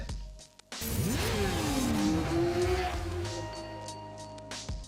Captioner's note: motorcycle engine roaring